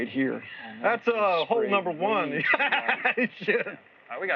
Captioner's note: laughs